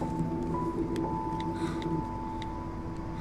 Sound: phone keyboard clicking

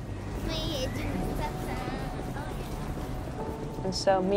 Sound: speaking Russian

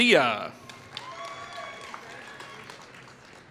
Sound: applause

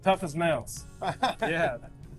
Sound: laughs

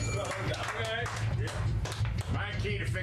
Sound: bell rings; applause

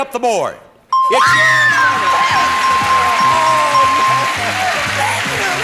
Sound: excited screams

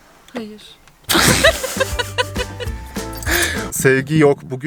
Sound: laughter

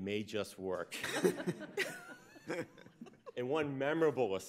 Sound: laughs

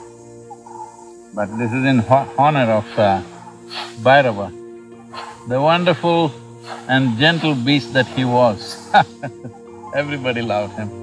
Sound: laughs

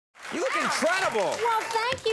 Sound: audience applauding

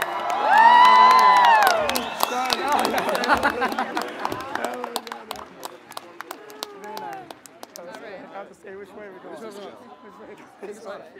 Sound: applause and cheers

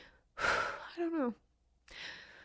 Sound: heavy sigh

